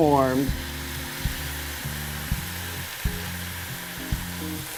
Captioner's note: sizzling, steaming